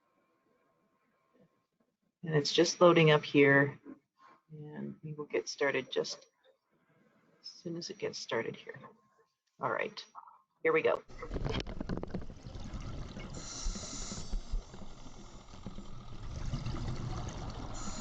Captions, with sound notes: And it's just loading up here, and we will get started just as soon as it gets started here. All right, here we go. (water bubbles) (diver breaths hiss)